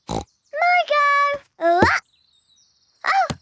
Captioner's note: snorts